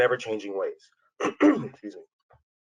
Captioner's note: coughs